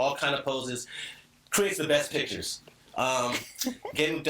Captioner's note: chuckling